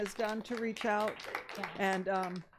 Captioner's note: audience applauding